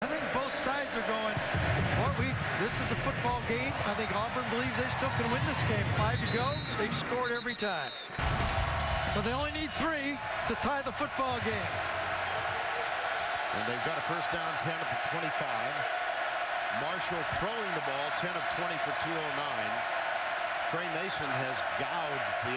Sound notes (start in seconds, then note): 12.2 crowd noise